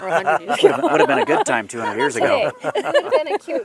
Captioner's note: laughter